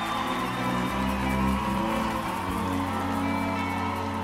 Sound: crowd cheering

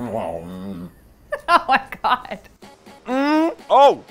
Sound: moaning; women laughing; laughs

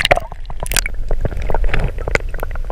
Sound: none

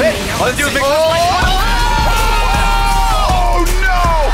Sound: shriek

